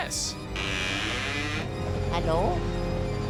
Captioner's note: door creaks